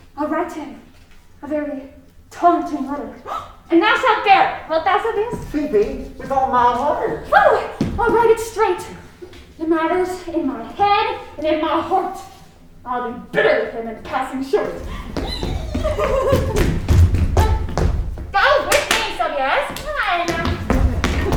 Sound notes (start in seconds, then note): 3.8 gasping; 14.7 giggling